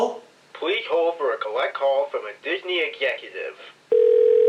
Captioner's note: from phone